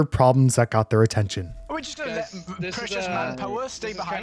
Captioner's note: stutters